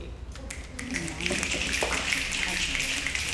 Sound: snapping

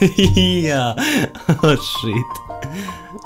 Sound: laugh

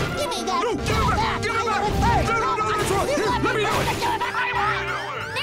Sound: arguing

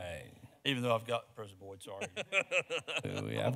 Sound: speaks quickly

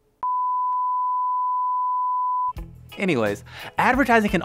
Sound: beep

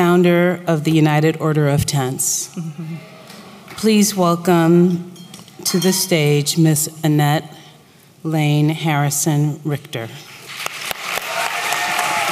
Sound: applause

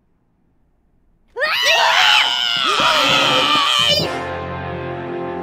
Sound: guttural scream

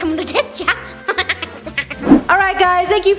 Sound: cackles

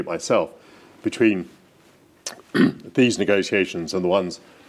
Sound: clears throat

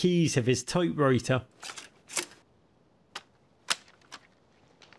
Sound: typewriter keys clacking

